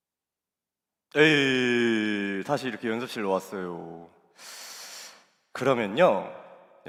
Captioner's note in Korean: 한숨; 콧방귀